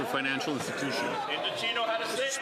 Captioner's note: some Applause